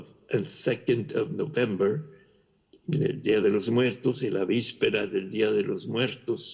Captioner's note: spanish